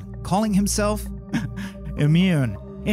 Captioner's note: chuckles